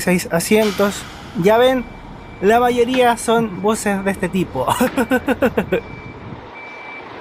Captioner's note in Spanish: risas